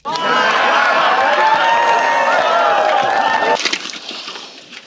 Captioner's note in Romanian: Aplauze